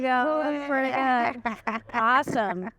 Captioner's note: laughs